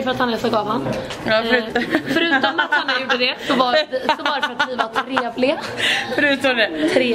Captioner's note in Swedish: Skratt